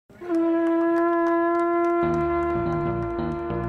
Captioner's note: horn trumpeting; melodious music